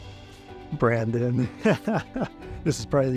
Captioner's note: laughs